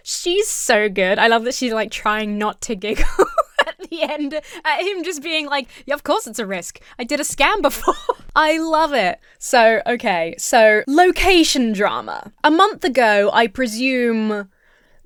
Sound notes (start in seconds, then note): 2.9 giggles; 7.7 laughs